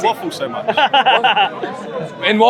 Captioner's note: laughter